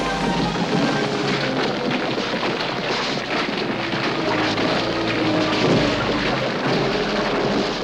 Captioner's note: sand and rocks crumbling